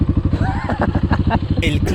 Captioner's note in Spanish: risas